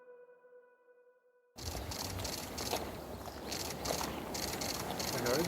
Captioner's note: cameras shuttering